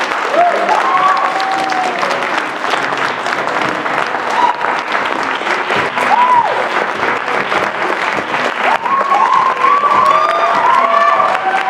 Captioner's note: applause; cheers; applause; cheers